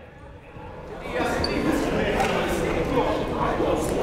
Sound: chatting

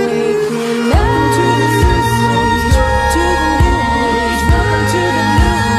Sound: echoing voices in counterpoint

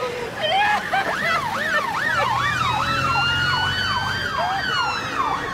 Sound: police sirens

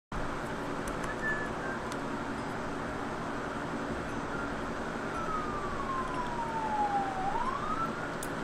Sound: police sirens

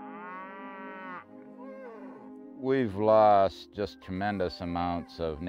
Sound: a cow moos

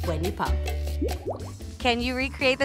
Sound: bubbles popping

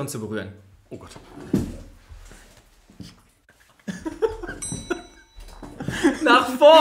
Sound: laughs

